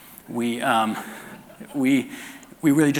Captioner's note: audience laughter